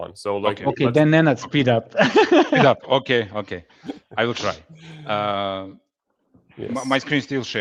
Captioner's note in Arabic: ضحك